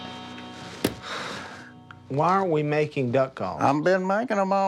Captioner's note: exhales